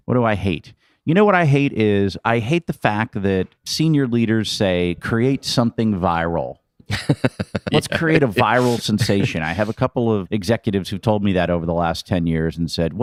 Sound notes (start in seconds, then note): 6.9 laughing